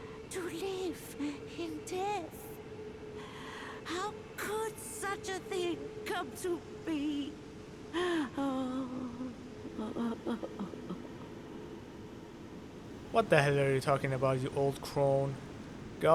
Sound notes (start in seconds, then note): 3.2 utterly despondent breath in; 7.9 inconsolable mourning